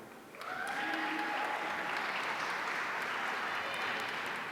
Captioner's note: audience applauding